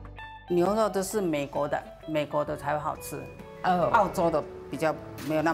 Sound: speaking local dialect

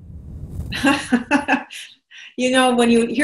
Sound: laughs

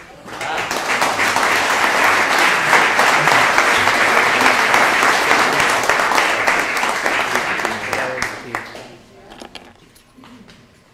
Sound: applause

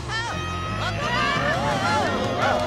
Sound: yelling

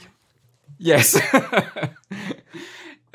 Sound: laughs

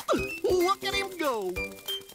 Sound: flapping

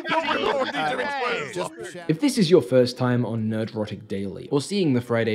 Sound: laughter

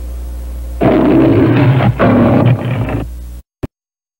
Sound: Leo the Lion roaring; silence

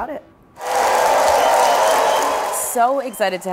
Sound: audience cheering

